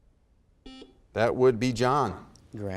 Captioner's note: buzzer beeps